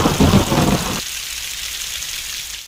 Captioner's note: thunder; rain